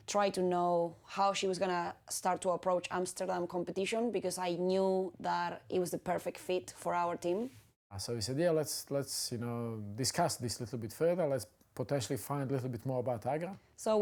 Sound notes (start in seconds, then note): none